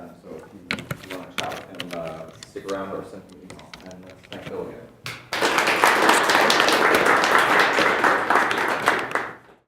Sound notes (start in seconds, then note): 5.3 audience applauds